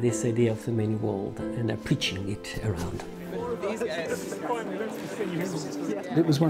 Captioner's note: people chattering